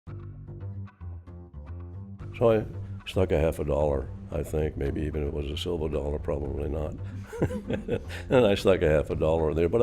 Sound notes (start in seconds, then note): 7.2 laughing